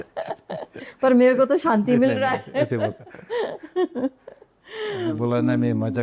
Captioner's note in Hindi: हंसी